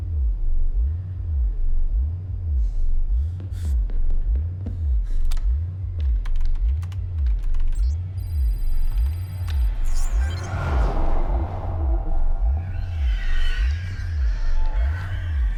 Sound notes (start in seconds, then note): 6.2 keyboard clacking; 9.7 whooshing eerily; 10.1 demonically screeching